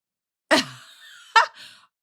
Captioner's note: laughter